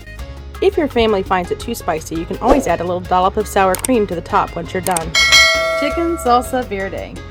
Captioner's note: click, bell ding